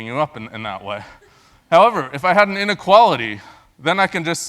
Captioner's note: laugh